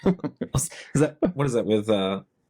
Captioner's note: laughing